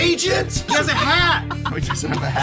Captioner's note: laughs